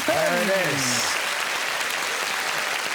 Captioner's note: audience applauding